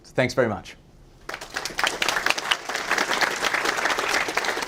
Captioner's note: audience applause